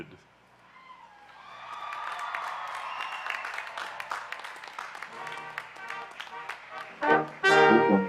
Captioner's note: applause; instrumental music